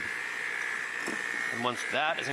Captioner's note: mixer noises